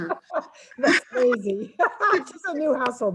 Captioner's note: laughs